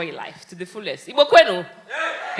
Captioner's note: speaking in foreign language